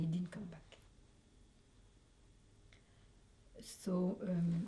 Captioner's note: pauses for 3 seconds